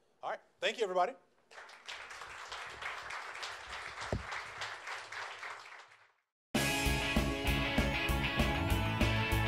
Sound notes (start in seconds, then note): 1.5 audience applauds; 6.6 upbeat music